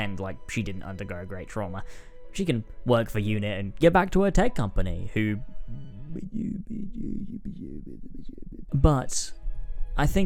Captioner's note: mumbles